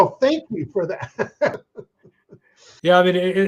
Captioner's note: chuckles